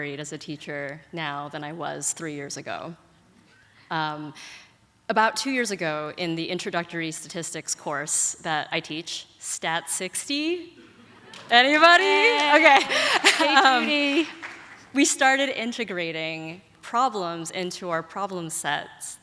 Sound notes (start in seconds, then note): 11.6 audience applauds; 14.1 laughs